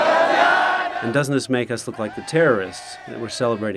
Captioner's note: crowd celebration